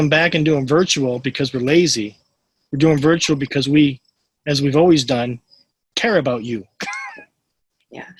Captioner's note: laughs